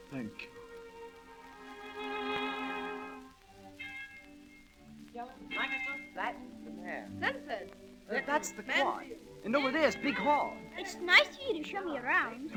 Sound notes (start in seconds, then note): 5.1 indistinct chatter